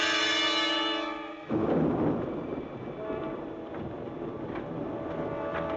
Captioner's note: thunder Rumbling